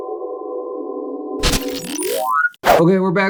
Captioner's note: camera static